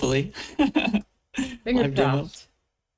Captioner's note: laughs